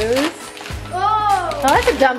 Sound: paper rustling

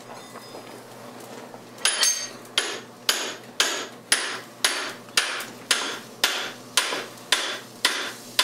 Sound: hammering

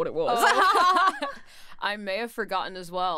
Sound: laughs

